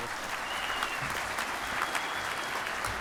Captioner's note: applause